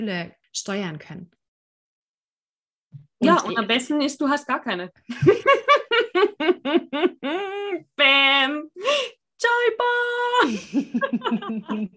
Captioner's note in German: lachen